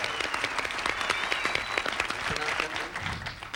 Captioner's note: audience applauding